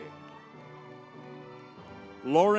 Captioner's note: crowd cheering